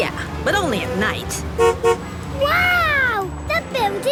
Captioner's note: honks